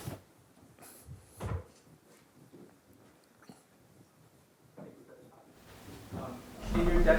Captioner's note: footsteps